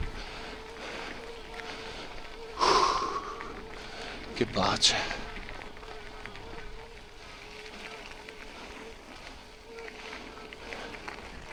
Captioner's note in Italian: sbuffare